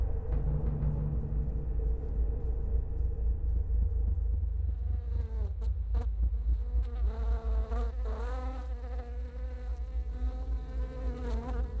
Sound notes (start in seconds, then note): 5.0 tense music; 6.5 flies buzzing